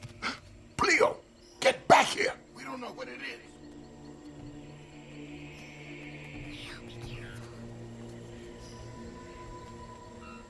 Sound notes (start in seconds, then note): 0.2 gasp; 6.7 whisper